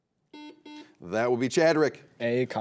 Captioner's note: buzzer beeps